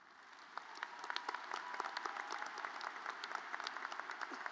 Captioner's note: audience applauds